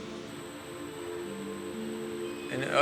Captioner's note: high buzzing